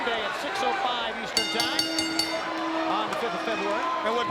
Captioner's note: bell rings